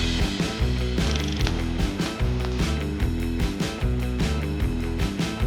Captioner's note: dramatic music; reel flickering